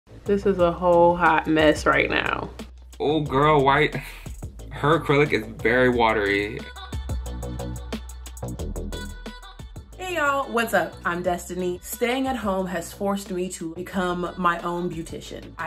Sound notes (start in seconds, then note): 4.0 man sighing; 6.5 upbeat music